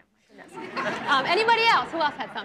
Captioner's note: audience laughs